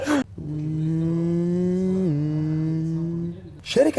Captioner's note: laughs; buzzing